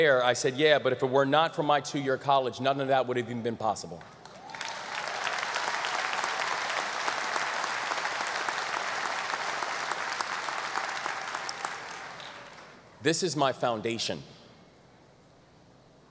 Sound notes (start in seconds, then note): 4.2 audience applause